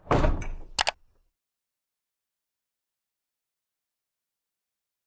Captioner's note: button clicks